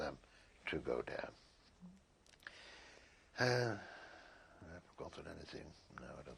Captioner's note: pauses for 3 seconds